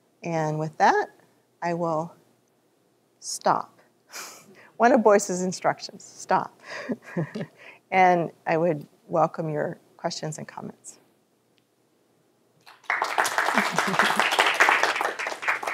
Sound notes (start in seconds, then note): 7.0 chuckles; 12.6 applause